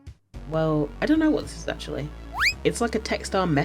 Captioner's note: slide whistle